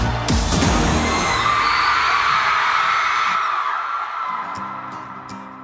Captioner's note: audience shrieks